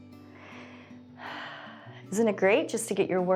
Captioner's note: exhales